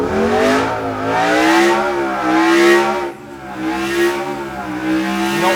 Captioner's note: engine roars